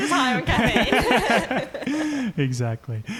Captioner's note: laughing